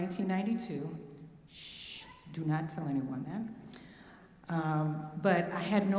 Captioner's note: shush